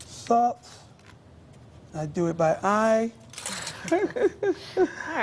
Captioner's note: laughter